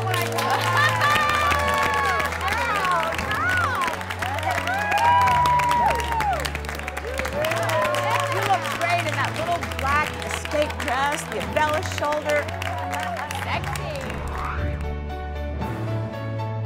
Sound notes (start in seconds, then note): 0.1 music and applause; 7.8 cheering